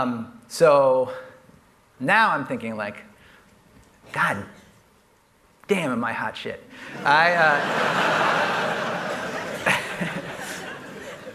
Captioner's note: laughter